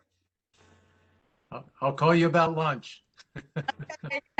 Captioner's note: laughter